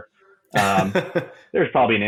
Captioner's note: laughing